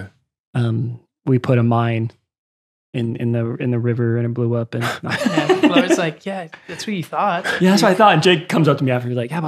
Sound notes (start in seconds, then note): 4.8 laughs